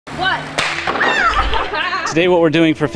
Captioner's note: cannon firing